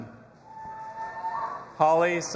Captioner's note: audience applauding and cheering